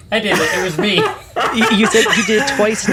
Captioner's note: laughing